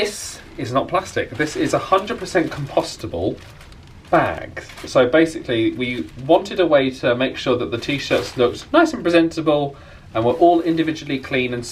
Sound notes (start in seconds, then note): none